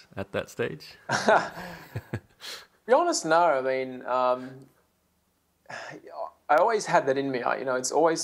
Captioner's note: laughs